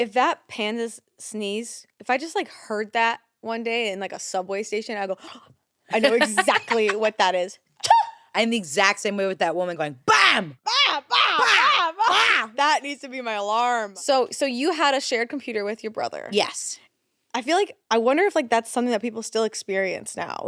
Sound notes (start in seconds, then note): 5.5 gasps; 7.8 mimics baby panda sneezing